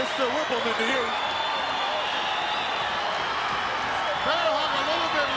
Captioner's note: crowd yelling